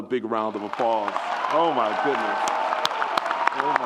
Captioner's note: audience applauds and cheers